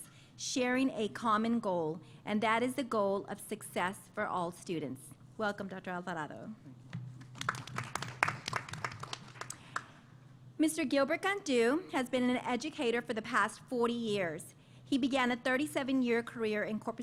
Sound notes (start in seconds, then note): 7.2 applause